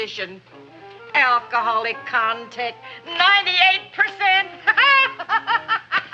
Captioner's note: laughs